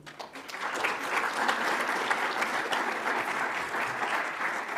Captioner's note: audience applauds